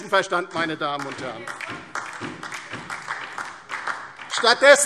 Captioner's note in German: Beifall DIE LINKE und SPD – Zuruf